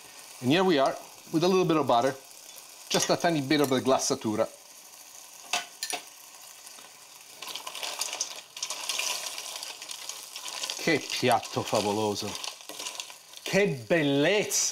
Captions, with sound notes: And here we are with a little bit of butter. Just a tiny bit of a (speaking in foreign language). (sizzling) (speaking in foreign language)